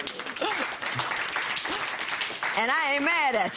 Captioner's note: applause